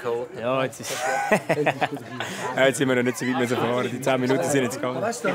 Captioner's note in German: Lacht